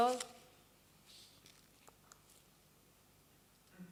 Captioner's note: silence